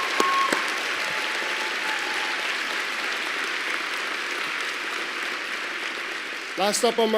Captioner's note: applause